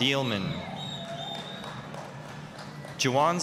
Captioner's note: applause, cheering